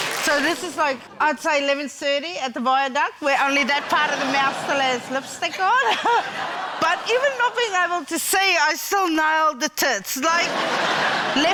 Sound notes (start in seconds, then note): 5.6 chuckles; 10.3 laughter